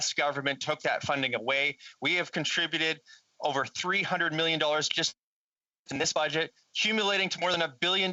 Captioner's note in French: voix de l'interprète